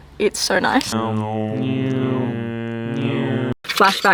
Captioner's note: car sounds